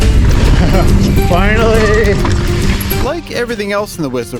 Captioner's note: happily laughs